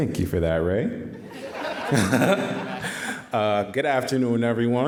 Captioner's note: all laughing